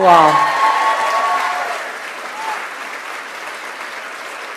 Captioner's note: audience applauds